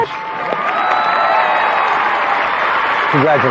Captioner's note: cheering and applause